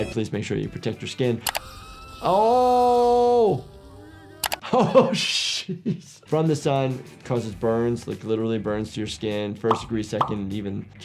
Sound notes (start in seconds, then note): 1.6 cub screaming; 3.9 Pop exclaiming; 4.6 laughs